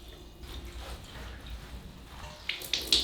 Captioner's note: scrubbing; water dripping